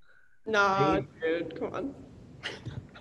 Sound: chuckles

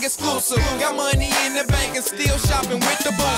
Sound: ahh!

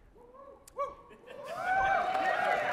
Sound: cheering

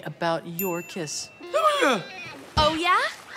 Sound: babbling

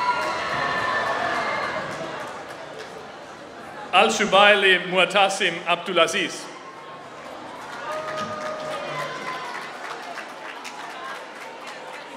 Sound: applause

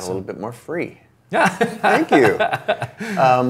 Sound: laughs

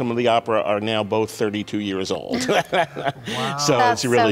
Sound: laughs

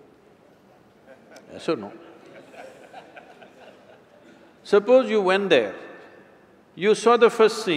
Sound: laughs

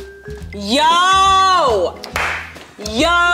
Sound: jazzy music continues; claps

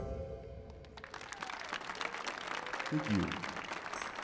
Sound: audience applauding

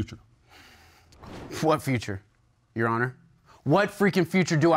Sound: sighs

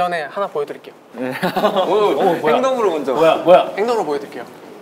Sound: murmur

